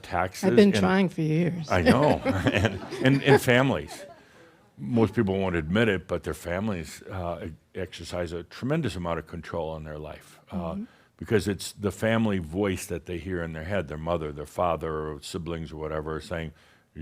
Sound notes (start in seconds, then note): 1.7 she chuckles; 1.8 some chuckles